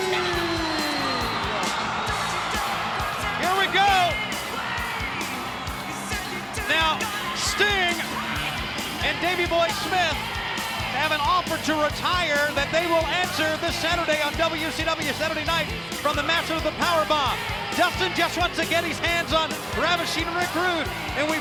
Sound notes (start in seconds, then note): 2.0 spectators cheering; 2.0 upbeat rock music